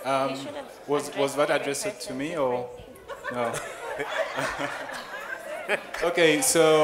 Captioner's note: laughing